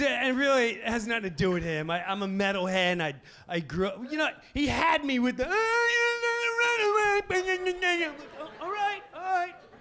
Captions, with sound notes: And really it has nothing to do with him. I'm a metal head, I grow, you know, he had me with the, (mimicking sounds) All right, all right.